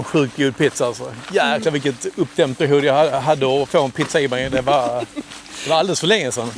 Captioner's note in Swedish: skratt